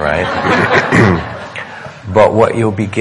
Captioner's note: audience laughing